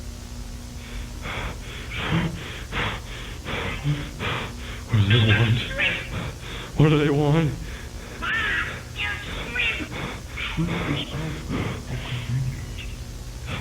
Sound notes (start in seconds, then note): 0.8 panting bc the shrimpcredibles are in the other room